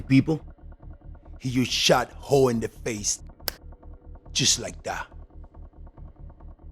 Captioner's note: fingers snaps